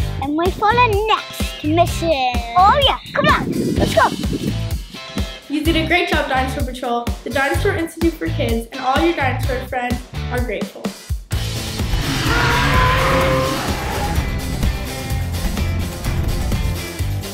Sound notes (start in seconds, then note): 11.8 dinosaur roaring; 13.5 energetic music